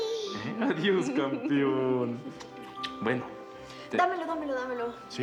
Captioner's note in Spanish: Balbuceos de bebé